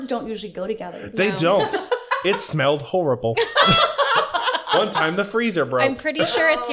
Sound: laughter

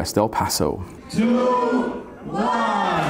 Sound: crowd

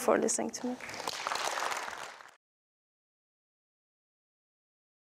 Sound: audience applause

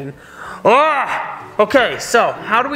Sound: dad groaning

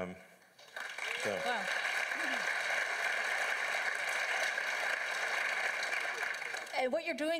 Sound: applause from the floor

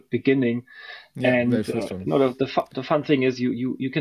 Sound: faintly speaks

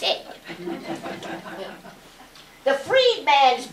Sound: laughter

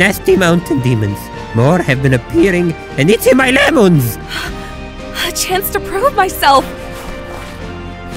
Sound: gasp

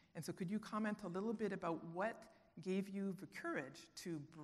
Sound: none

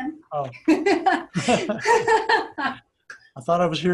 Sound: both laughing

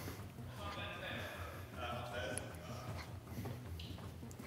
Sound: distant talking

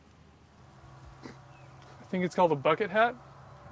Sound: Mac snickers

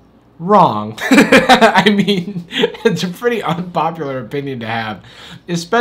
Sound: laughs

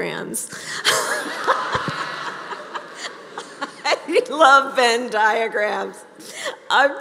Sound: laughter

